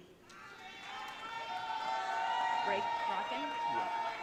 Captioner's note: audience cheering